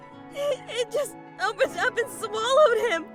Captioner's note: sobs